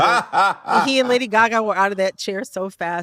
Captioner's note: laughter